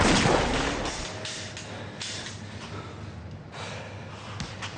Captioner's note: gun shots fire; empty gun clicks; Alex exhales loudly